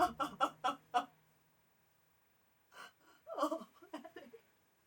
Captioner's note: Frances sobbing